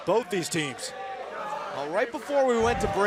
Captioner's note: crowd chatter